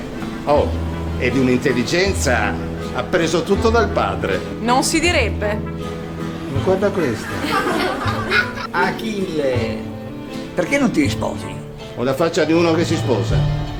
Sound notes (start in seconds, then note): 6.9 laughter